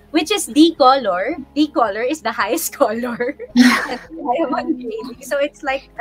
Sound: laughing

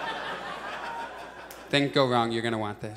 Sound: audience laughs

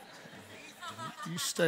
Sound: congregation laughing

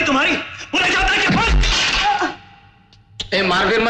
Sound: groans

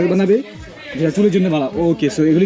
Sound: foreign language

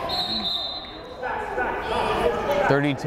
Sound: whistle blows

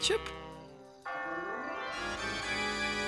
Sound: bell tolling

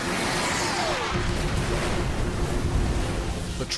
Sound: missile screams; explosion

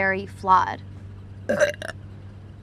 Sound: belches

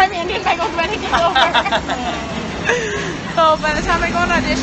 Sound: all laughing

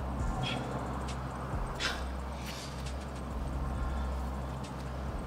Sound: Malik breathing heavily

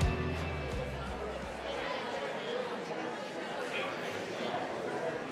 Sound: audience chattering

